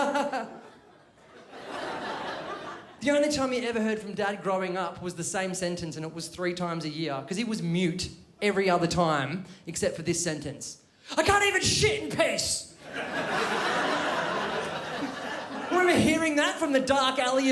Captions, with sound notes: The only time you never heard from Dad growing up was the same sentence And it was three times a year. Because it was mute every other time except for this sentence. 'I can't even shit in peace!' *crowd laughs* Remember hearing that from the dark alley